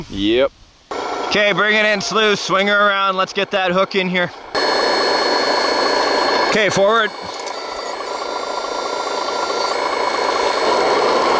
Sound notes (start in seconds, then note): 4.6 engine chugging; 7.6 truck whirring